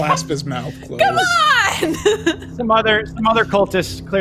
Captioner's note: laughs